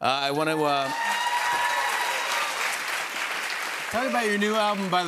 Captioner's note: cheers and applause